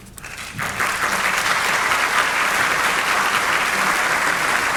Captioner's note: audience applauding